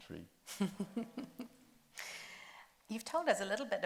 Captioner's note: chuckles